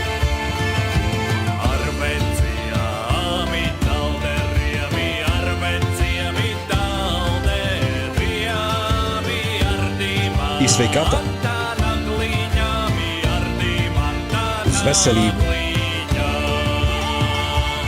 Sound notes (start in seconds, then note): 11.0 in Lithuanian; 15.2 in Latvian